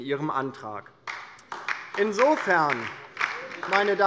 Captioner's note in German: Beifall DIE LINKE